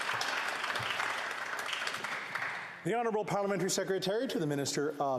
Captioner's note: applause